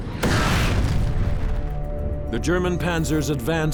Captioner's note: tank explodes